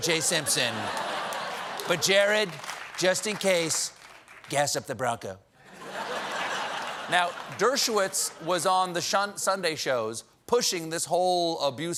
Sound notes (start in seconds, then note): 5.6 laughter